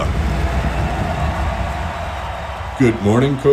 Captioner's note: crowd cheering